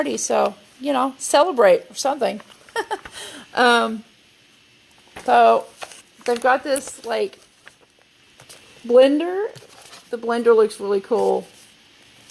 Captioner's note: laughs